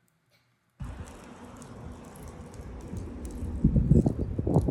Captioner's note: granite popping